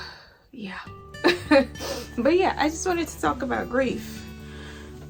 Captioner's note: chuckles